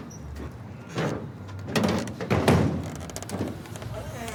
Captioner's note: bench thudding